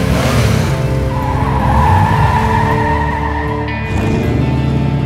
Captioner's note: tire s screeching